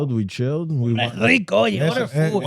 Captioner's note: speaking Spanish